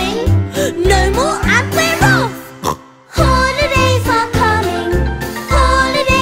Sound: snorts

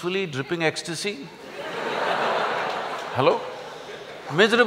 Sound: laughter

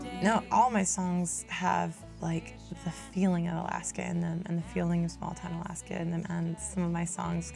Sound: speaking

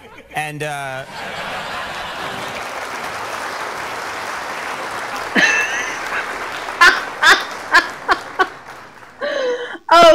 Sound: laughter

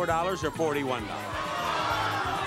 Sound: audience shouting

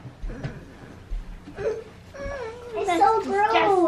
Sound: groans

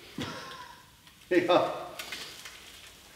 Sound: laughing

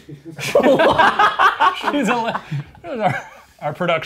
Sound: all laughing

